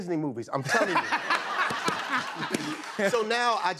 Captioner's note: laughter